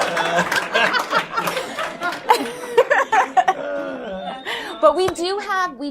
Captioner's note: laughter And Applause